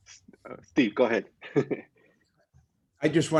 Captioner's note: laughter